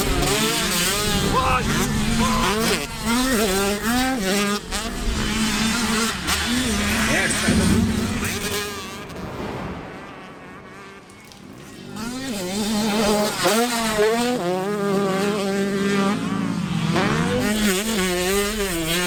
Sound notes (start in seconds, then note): 9.4 whoosh sfx; 11.3 water drops